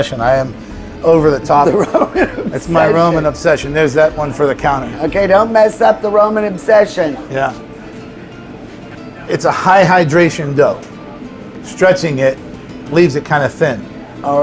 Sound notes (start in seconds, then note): 1.5 laughs